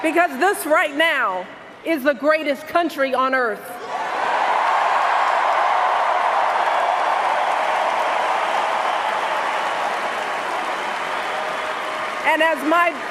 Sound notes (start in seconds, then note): 10.2 cheers and Applause